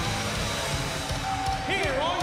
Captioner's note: bell ringing